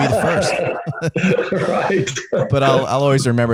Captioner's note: laughing